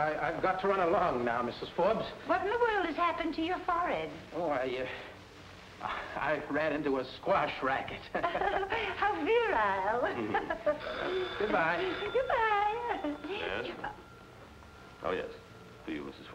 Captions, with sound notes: - Well, I've got to run along now, Mrs. Forbes. - What in the world has happened to your forehead? - Oh, I ran into a squash racket. (both chuckling) - How virile. (phone ringing) - Goodbye. - Goodbye. - Yes? Oh yes.